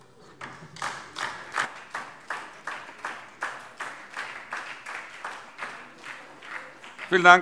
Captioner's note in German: Beifall DIE LINKE und vereinzelt SPD